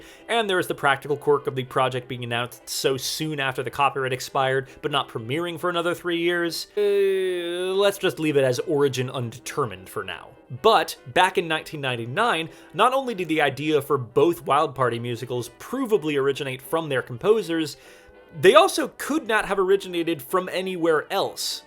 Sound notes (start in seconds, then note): 6.7 groan